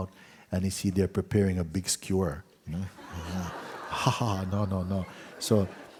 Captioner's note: laughter